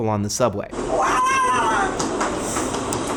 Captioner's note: subway noises